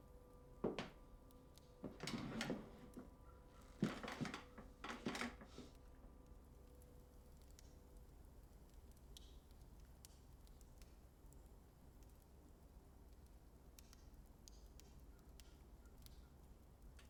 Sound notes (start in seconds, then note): 7.8 flames crackling